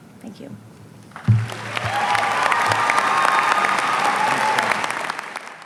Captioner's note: audience applauding